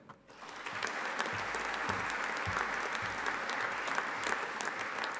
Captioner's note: audience applauding